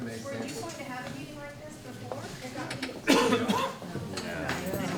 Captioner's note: audience chattering